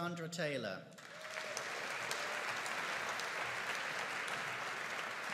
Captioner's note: audience applauding